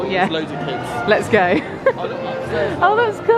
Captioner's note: laughs